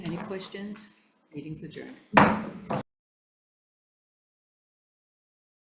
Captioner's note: mallet thudding